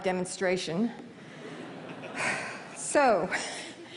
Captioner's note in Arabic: ضحك